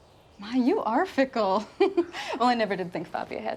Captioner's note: laughs